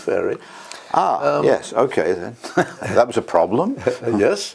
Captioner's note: laugh